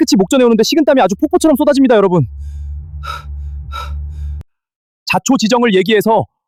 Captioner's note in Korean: 한숨; 헉 소리